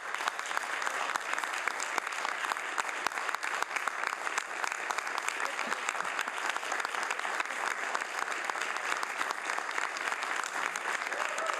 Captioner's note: some Applause